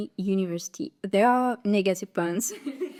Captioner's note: general laugh